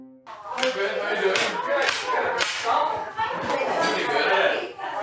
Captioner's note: trains and toys clattering